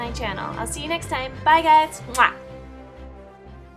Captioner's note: kiss